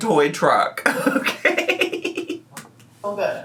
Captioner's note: giggles